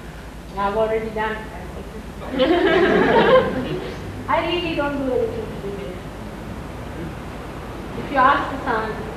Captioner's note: laughter